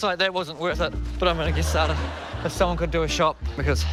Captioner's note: laughter